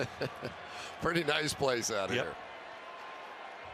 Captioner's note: laughs